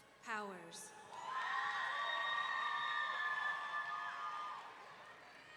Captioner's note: audience cheering